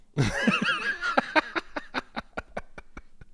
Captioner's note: laughing